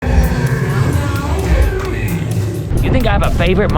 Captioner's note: animatronics moving surprisingly naturally